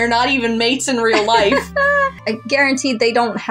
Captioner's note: laugh